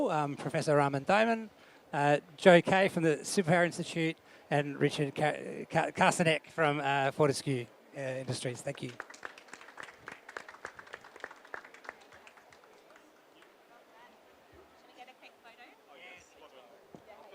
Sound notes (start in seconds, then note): 8.7 audience applause